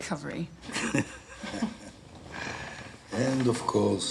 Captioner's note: they chuckle